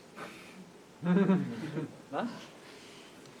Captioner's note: laughter